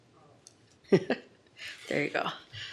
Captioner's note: laughing